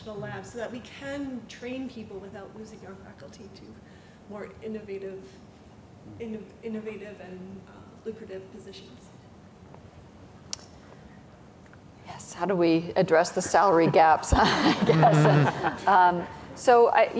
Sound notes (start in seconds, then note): 14.3 chuckles